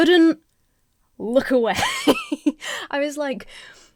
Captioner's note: Emma laughs